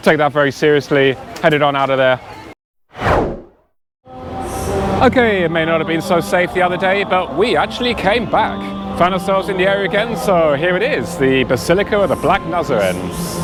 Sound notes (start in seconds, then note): 2.9 whoosh Sound